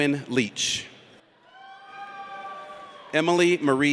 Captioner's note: audience cheers